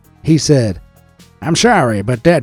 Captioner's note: in old timey American accent